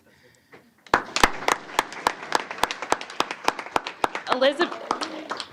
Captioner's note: applause